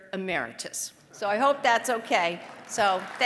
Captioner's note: applause